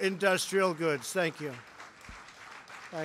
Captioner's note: applause